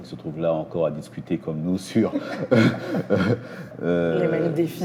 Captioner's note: laughter